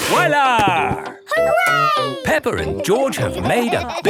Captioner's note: laughing